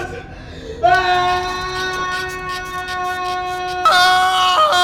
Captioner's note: men yelling